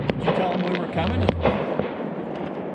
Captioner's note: fireworks blasting